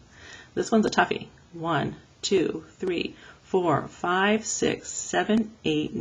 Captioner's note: audible breath